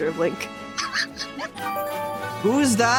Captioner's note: wheezing